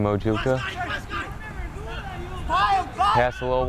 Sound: players talking and yelling

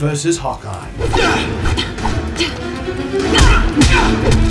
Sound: fighting noises

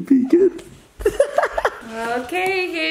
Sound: laughter

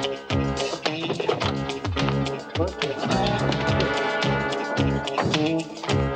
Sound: truck doors open, close

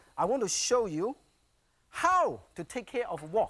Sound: none

